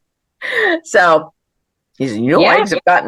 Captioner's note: laughs